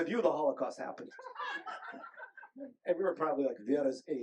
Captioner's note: group laughing